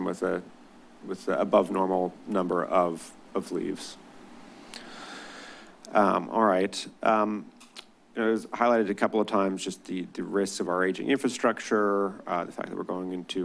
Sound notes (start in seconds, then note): 4.5 deep breath; 7.6 clicks tongue